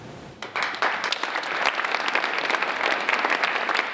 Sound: applause

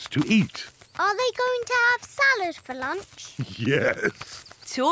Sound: laughs

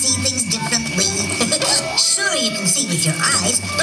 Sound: figment laughing

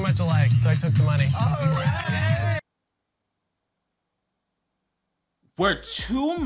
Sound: contestants cheering

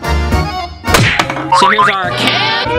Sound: metal clanks

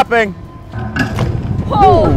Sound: sledgehammer thudding

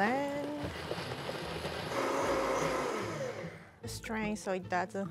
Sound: blender wiring

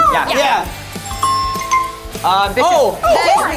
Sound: app chimes

